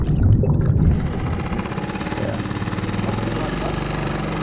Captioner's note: engine revving